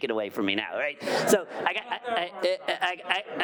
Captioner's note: audience laughing